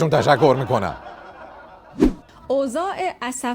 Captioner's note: laughter